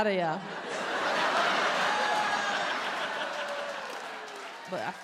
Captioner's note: audience cheers and applauds